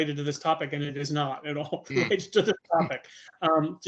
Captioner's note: laughing